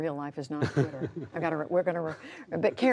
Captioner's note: laughter